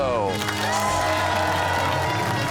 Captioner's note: cheers and applause